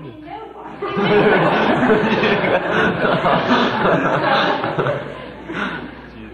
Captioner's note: laughter